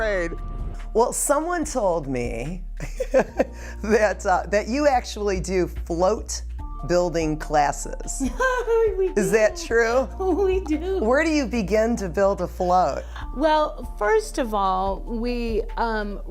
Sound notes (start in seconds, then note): 2.0 laughs; 8.1 laughs